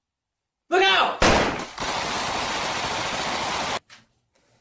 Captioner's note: gunshots